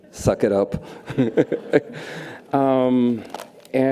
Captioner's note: laughs